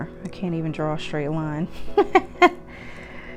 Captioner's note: chuckles